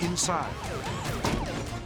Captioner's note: sirens blaring; repetitively pounding door